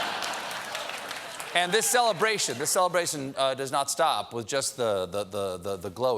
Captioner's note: applause